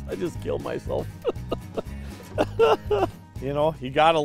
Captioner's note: laughing